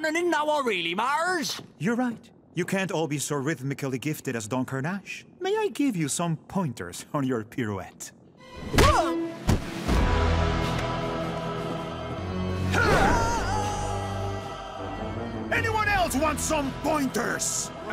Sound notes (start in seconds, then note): 12.7 screams